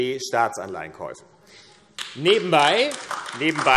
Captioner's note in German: Beifall AfD